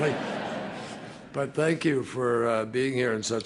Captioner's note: laughter